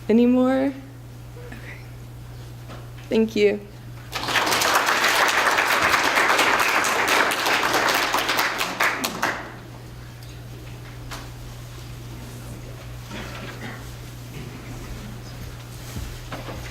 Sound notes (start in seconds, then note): 4.0 applause